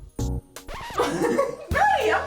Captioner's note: romantic music; record scratches; laughs